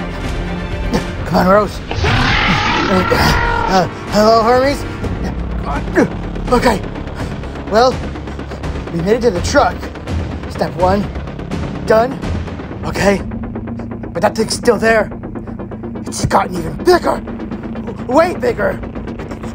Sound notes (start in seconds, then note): 1.8 Hermes growls